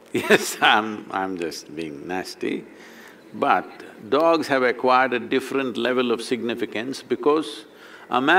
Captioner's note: few laugh